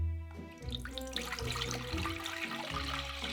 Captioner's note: water pouring